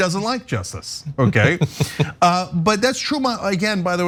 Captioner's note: laugh